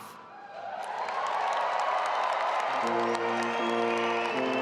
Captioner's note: audience applauding and cheering; stately music